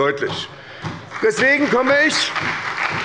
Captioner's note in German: Beifall bei der SPD